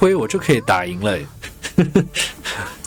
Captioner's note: laughs